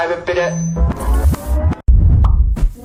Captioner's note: microphone feedback